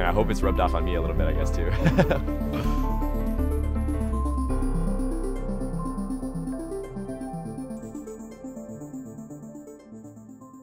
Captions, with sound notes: and I hope it's rubbed off on me a little bit, I guess, too. (laughing)